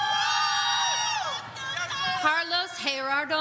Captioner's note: audience cheering